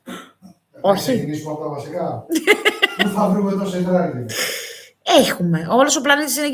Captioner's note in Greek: γέλια